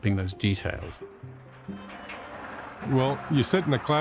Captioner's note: cart engine whirring